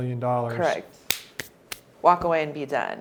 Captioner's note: claps